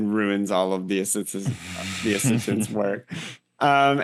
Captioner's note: laugh